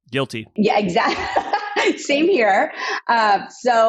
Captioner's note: laughs